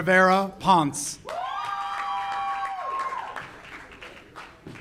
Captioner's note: audience cheers